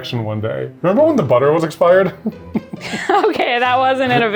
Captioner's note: laughs